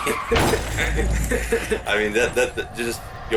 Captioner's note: laughter